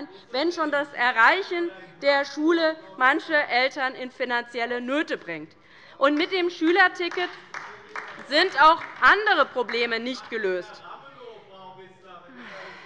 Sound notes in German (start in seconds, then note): 6.1 Beifall bei der LINKEN